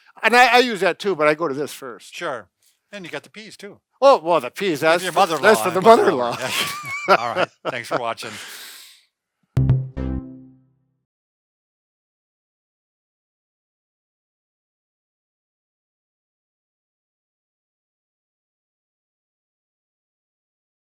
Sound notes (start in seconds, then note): 5.4 both laughing; 9.6 upbeat music